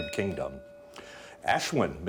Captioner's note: bell dinging